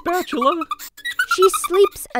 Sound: chuckles

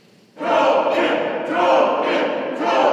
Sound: crowd chanting

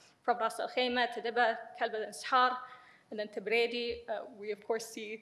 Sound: speaks in foreign language

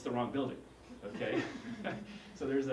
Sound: laugh

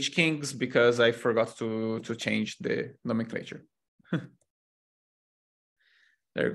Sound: chuckles

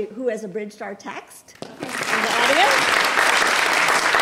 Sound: applause

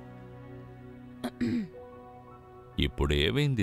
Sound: clears throat

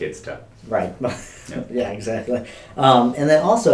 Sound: chuckles

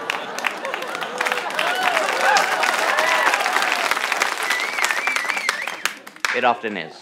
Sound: audience claps

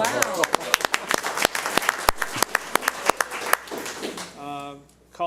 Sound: audience applauds

